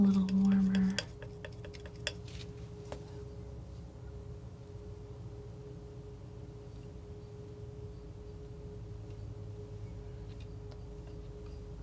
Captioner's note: scraping